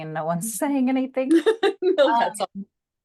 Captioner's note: laughs